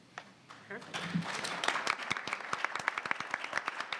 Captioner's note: audience applauds